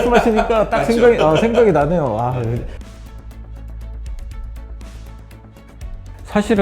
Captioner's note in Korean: 웃음